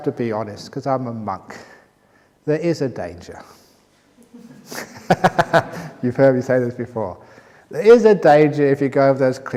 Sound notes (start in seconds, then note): 4.2 laughter